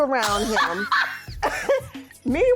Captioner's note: laughing